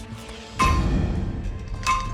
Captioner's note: metal thuds